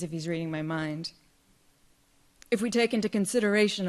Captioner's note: none